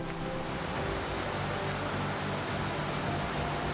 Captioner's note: rain pouring